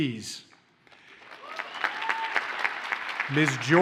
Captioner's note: audience cheers and applauds